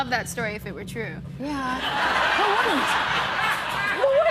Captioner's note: laughter